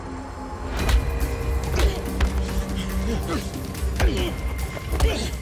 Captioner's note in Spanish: Golpes